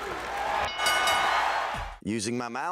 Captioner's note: crowd cheers; ref slams hand; bell rings